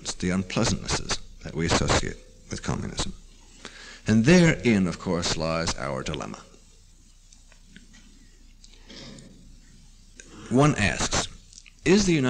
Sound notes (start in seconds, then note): 8.4 pause